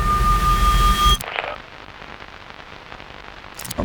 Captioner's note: static crackling